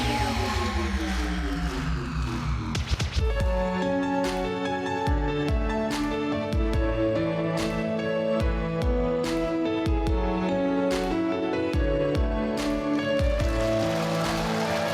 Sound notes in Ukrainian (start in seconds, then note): 1.5 оплески